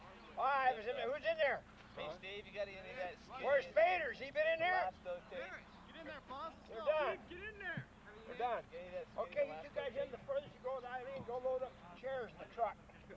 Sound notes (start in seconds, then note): 3.5 shouting; 12.9 indistinct chatter